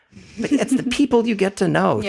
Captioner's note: laugh